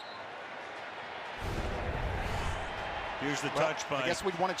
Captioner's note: whistle blows